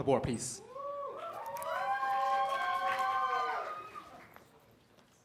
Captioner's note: cheers and applause